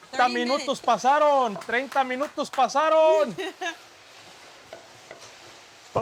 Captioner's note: speaking Spanish